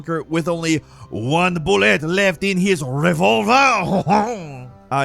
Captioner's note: chuckles